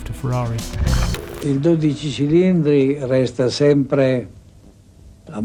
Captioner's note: Enzo talks in Italian